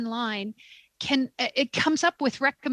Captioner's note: speaking french